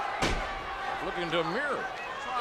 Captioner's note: ring thuds